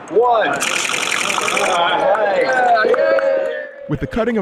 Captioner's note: cheering